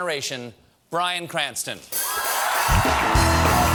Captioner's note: cheers and applause